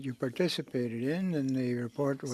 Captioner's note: speaking French